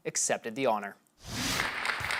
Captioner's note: clapping